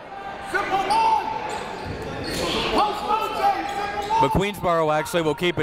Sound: crowd talking; coaches yelling

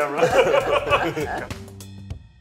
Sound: laughs; bright upbeat music

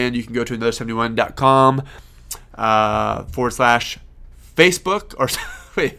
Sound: laughing

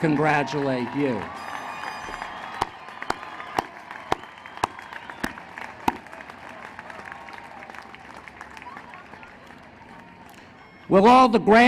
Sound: applause

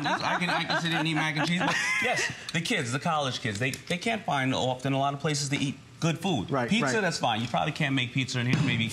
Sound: laughter

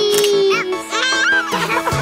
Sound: camera shutter snaps; laughs

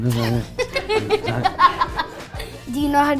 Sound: laughs

